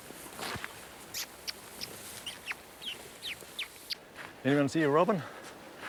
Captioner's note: imitates bird call